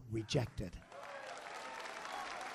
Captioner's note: applause